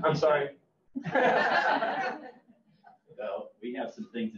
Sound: all laugh

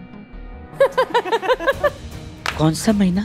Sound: laughing

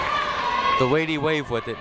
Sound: people cheering in the crowd

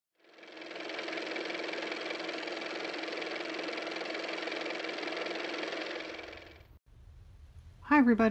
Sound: car motor

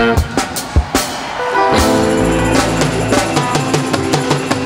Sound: audience cheering

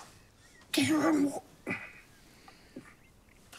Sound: croakily

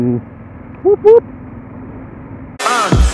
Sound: boop

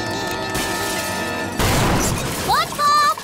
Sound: thudding

